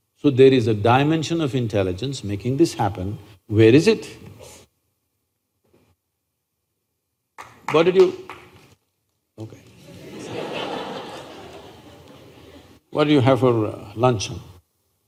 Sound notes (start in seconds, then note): 9.8 laughter